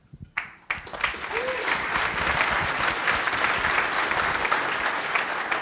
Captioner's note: applause